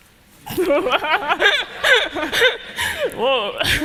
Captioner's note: laughter